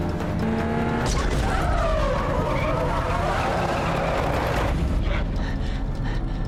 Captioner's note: tires screeching; metal crunching